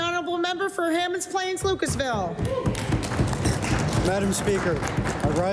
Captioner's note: applause